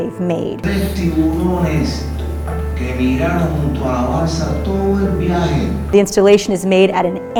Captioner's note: Spanish